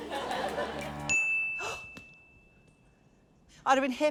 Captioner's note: ding!; gasps